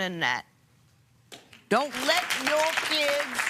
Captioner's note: applause